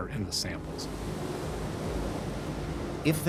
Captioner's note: waves crashing